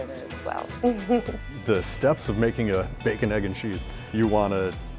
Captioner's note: laughs